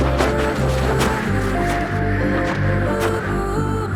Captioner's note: wind gushing